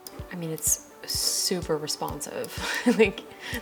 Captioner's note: laughs